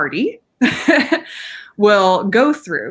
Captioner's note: laughing